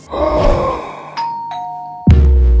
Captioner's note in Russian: Звонок в дверь